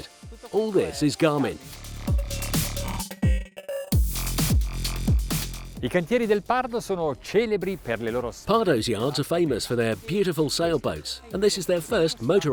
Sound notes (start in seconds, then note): 2.4 techno music; 6.3 foreign language